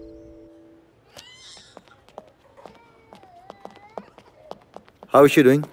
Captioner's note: Footsteps